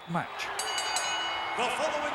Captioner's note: bell chimes